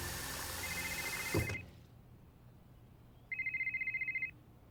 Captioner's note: water rushing; cell phone ringing